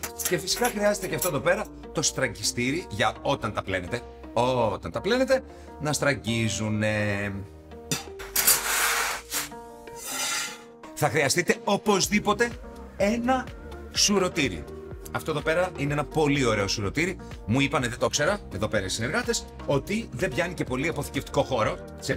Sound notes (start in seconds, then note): none